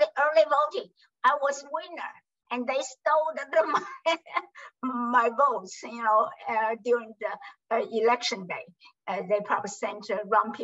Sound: laughs

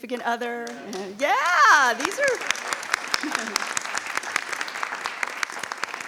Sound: people applauding

